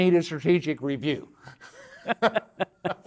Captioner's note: laughter